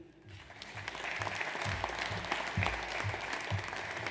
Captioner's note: audience applauds